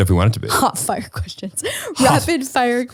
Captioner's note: laughs